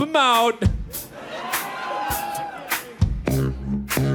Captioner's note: audience cheers; sax music